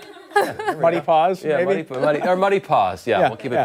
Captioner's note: laughter